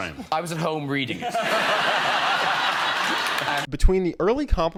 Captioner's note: audience laughs